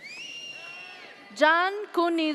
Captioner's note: audience cheers